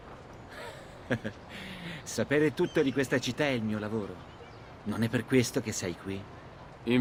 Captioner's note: laughs